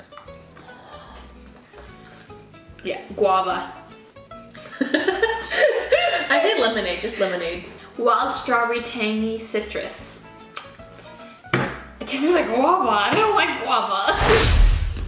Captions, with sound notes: Yeah, guava. (laughs) - I think lemonade, just lemonade. - Wild Strawberry Tangy Citrus. It tasted like guava. I don't like guava.